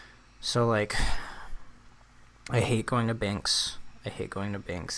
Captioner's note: sighs